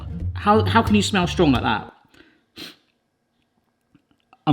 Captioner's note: sniffs